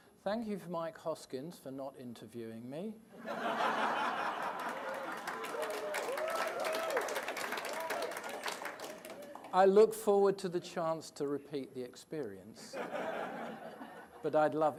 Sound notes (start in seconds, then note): 3.2 laughter and applause